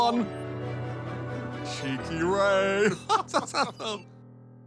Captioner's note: laughs